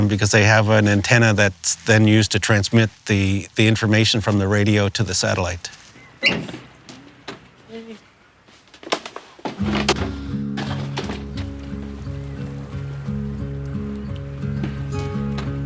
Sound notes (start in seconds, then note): 6.1 hinge squeaks; 8.8 crates rattle; 9.6 upbeat guitar music; 12.1 waves splash